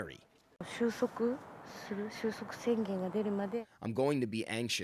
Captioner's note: non-english speech